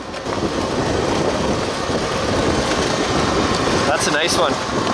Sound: wind blowing

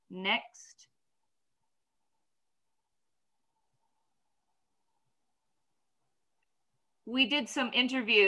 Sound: silent

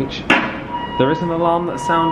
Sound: alarm blaring

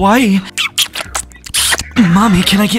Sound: kisses

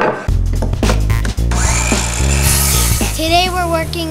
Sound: saw whirring

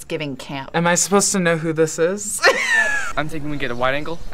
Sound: laughs

